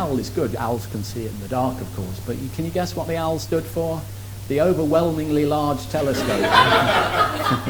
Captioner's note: laughs